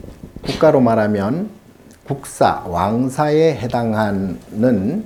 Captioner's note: speaking Korean